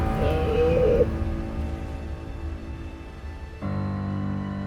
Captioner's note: sea lion moaning